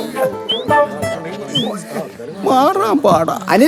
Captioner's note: moaning in pain